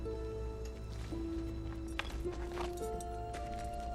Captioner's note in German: Klappern